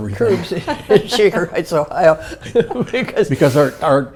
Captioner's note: laugh